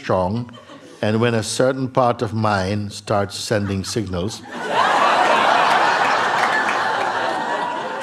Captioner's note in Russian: взрыв смеха